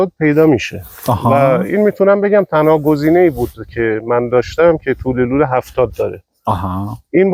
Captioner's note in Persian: صدای خرناس